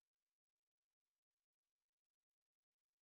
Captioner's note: none